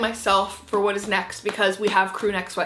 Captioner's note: hands slapping